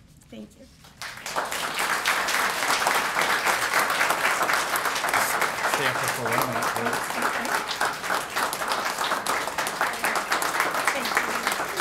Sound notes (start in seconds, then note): 2.0 applause